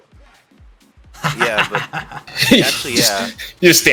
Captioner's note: laugh